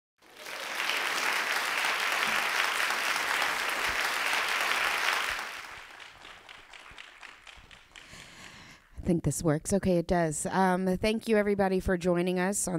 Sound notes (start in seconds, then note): 0.2 applause; 5.6 applause quiets